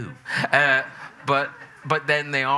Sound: audience chuckling

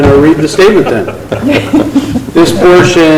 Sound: loud laughter

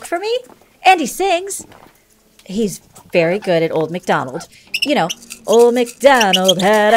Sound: hamster squeaks

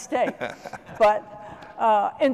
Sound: laughter

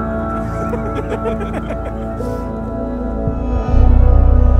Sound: laughter

